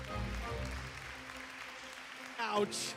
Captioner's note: applause